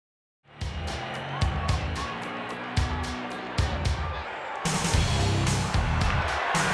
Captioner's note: crowd cheers; bass heavy rock music